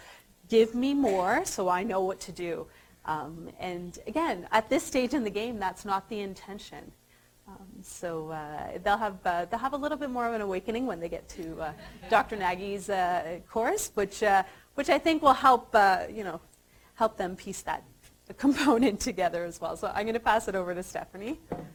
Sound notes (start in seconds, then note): 11.7 audience laughter